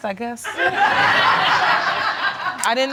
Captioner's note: audience laughing